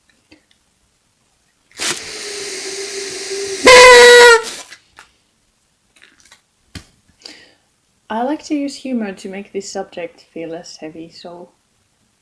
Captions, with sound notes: *TOOOOOT* I like to use humor to make this subject feel less heavy. So